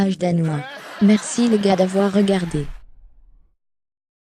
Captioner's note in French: des rires